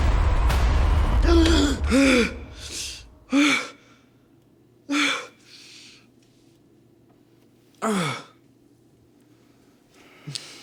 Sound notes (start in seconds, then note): 1.4 Alan gasping